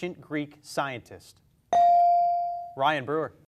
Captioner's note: beep